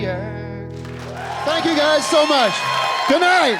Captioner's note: cheering and applause